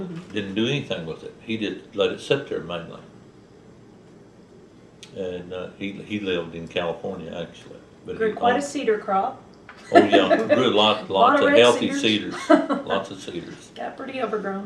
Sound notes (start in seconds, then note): 9.8 laughs; 9.8 laughter; 13.4 laughs